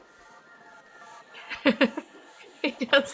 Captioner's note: laughs